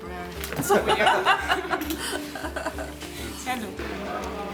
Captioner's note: laughing